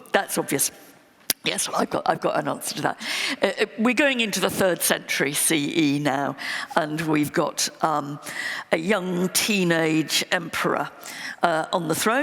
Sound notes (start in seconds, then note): none